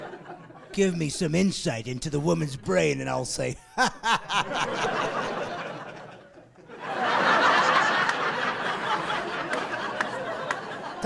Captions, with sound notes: You'll be coming to me begging with tears rolling down, give me some insight into the woman's brain and I'll say, "hahaha!" (laughing)